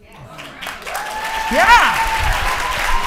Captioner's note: audience applauding and cheering